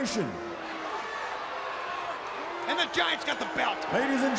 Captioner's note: crowd chatter